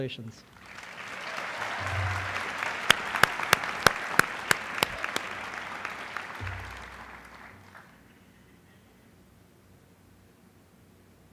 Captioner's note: applause